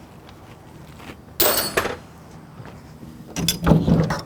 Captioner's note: clanging